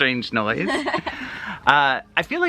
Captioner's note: chuckles